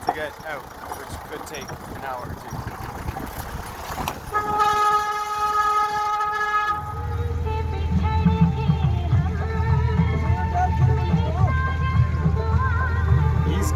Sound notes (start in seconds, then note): 4.2 horn honking; 10.6 man shouts in foreign language